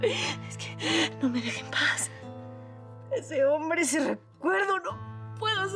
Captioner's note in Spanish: Sollozando